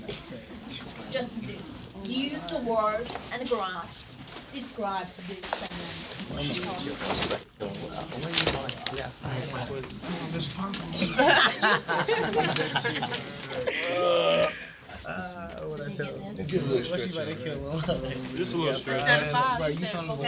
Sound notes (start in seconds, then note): 8.3 murmur